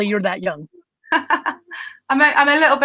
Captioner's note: laughing